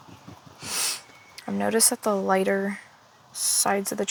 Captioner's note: sniffles